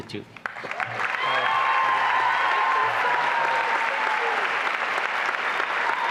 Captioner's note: applause and cheering